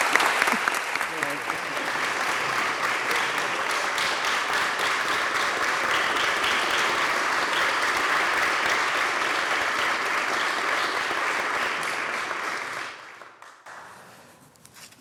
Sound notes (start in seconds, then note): 2.4 applause